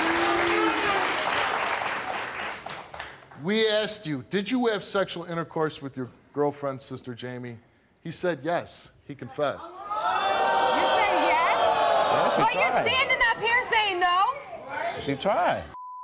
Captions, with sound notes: We asked you, did you have sexual intercourse with your girlfriend's sister Jami? He said yes, he confessed. (audience jeers) - You said yes? - I actually tried. - You're standing up here saying no? - Keep trying.